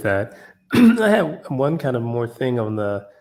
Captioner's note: cough